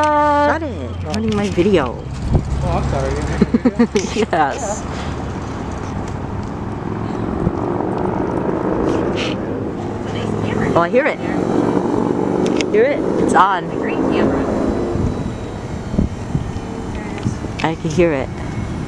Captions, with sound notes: Shut it your ruining my video Oh, I'm sorry you were making a video yes [chopper starts] Oh I hear it Hear it it's on [chopper continues to wind down] I can hear it